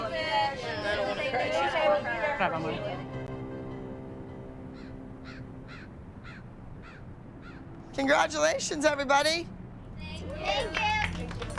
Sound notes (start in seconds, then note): 2.1 speaks Italian; 4.7 bird cawing